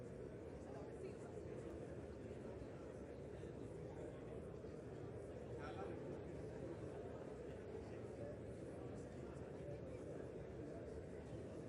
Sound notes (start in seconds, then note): none